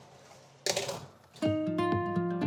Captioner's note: baking tray rattles; light upbeat folk music